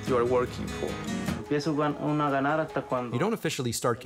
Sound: speaking spanish

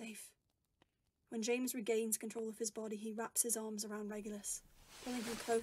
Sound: clothes rustling

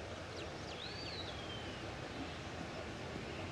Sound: birds singing

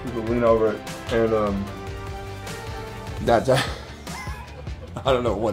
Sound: laughing

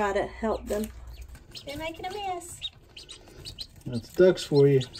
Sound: ducks chirping

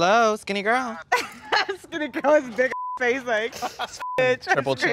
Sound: laughing; beep

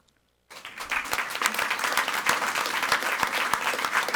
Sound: audience applauding

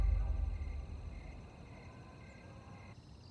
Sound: cicadas citter

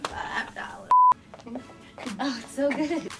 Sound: beep

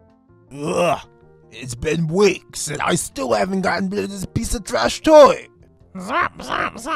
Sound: groans

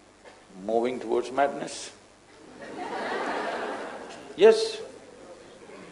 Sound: laughter

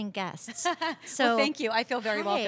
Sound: laughter

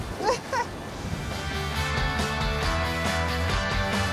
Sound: laughs; upbeat music

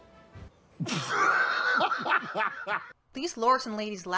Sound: laughter

